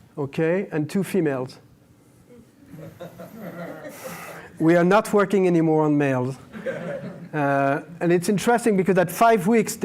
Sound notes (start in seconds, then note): 2.6 laughter